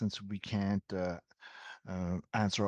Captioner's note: speaking in French